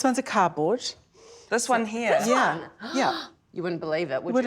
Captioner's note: gasps